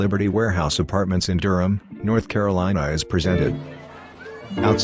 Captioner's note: upbeat music; chatter